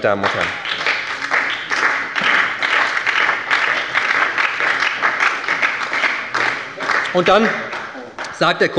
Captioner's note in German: Beifall bei der SPD